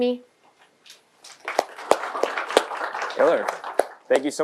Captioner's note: applause